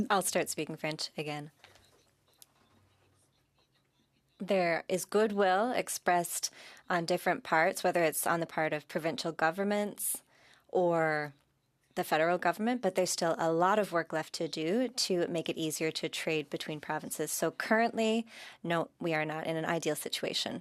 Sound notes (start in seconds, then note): 5.7 speaking French